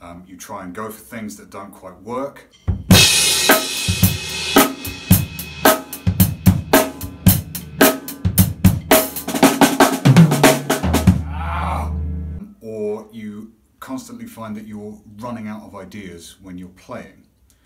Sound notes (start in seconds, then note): 2.9 drum music; 11.1 groans